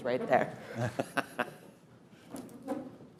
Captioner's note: laughs